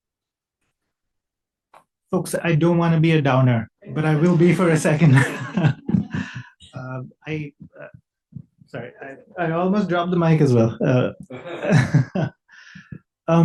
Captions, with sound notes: - Folks, I don't wanna be a downer, but I will be for a second. (laughs) Sorry, I almost dropped the mic as well. (laughs)